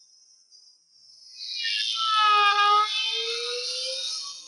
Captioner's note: siren blaring